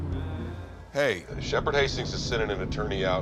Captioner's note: on phone